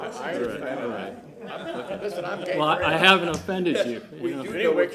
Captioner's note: laughter